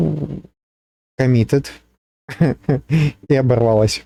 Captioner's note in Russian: смех